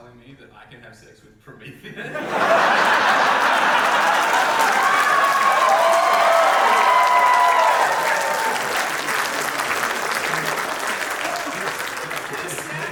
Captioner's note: big audience cheers